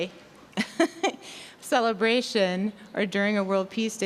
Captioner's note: laughing